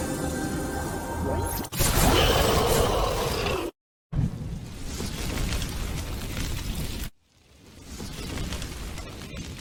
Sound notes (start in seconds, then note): 1.8 explosion; 4.4 fires Burning